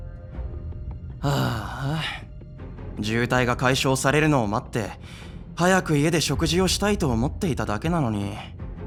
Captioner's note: sigh